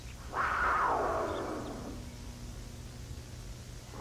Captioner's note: cougar roaring